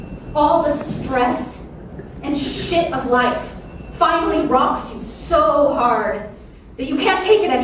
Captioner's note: someone's phone alarm goes off here